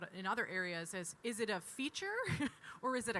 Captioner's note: chuckles